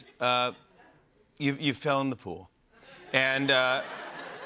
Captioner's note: laughter